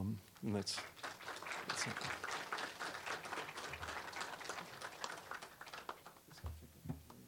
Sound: applause

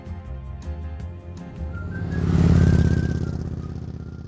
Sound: motorbike roaring

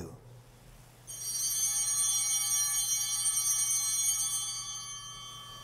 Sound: chimes ringing

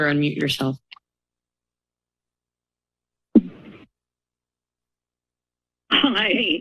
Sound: silence

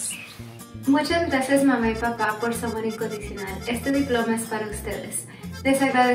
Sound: speaks in foreign language

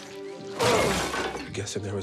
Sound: porcelain breaking

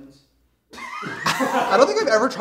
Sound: laughter

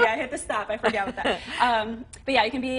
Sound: laughter

